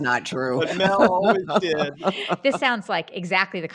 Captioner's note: laughing